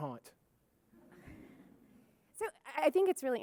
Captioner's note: audience chuckling